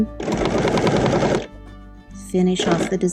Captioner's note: machine whirring